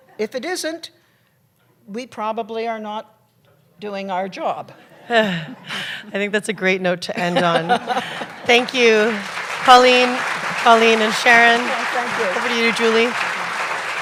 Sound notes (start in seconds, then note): 5.3 laughter; 7.2 laughter; 7.8 applause